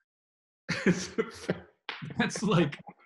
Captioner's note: laughing